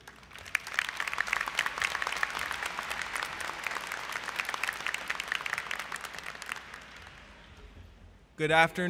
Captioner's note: applause